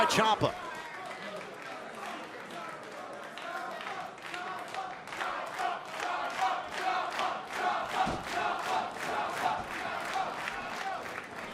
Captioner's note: crowd cheering